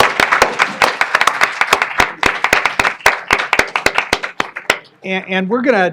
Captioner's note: applause